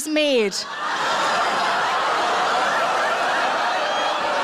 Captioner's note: audience laughs